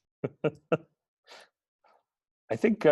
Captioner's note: laughs